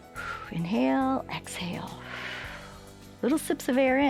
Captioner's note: exhales